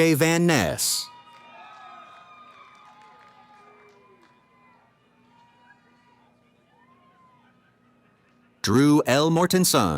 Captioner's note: cheering